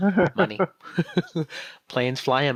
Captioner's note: co-host laughs